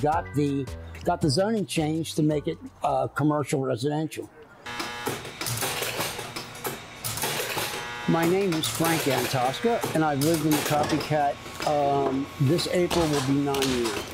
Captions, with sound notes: got the zoning changed to make it commercial/residential. [pinball machine noise] My name is Frank Yantosca, and I’ve lived in The Copycat, uh, this April will be 9 years.